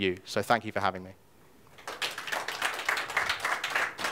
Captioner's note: audience clapping